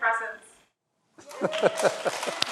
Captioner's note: everyone applauds; laughs